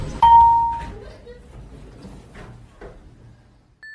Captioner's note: elevator opens